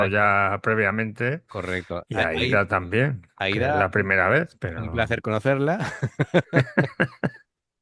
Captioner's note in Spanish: risas